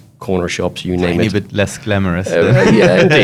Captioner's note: laughs